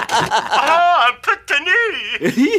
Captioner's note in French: rires; voix de la cassette